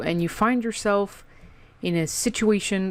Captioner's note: dramatic pause